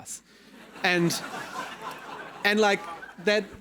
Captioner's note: attendees laughing